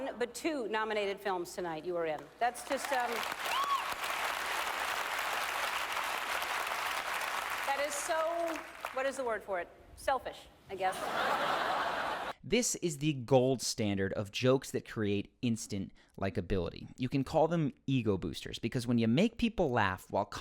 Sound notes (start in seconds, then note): 2.7 audience applauds; 10.9 audience laughs